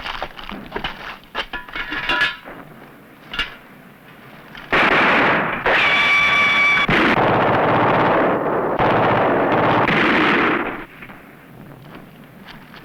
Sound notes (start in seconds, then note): 4.7 gunfire